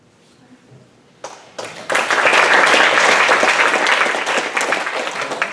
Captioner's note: applause